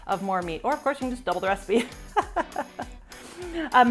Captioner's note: laughs